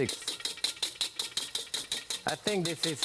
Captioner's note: whisk tapping